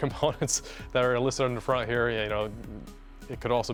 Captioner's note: laughs